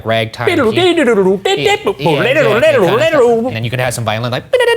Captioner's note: imitating piano